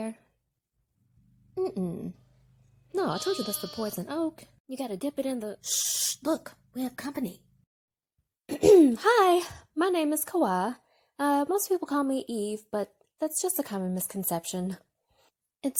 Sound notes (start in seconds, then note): 3.0 sheep continues to baa; 8.5 clears throat